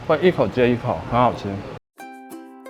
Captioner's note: none